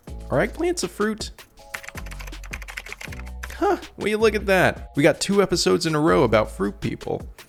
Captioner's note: typing sounds